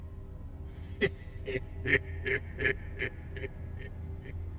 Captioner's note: leprechaun laughing